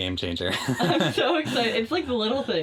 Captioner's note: chuckling